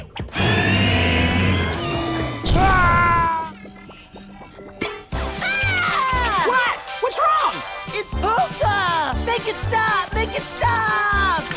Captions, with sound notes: [screeching] [screaming] Ah! What?! What's wrong? It's Polka. Make it stop! Make it stop!